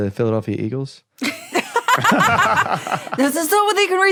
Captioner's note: group laughing